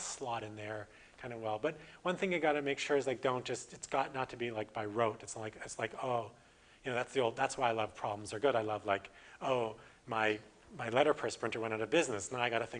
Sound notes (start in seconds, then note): none